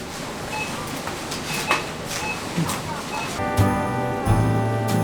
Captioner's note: machine beeping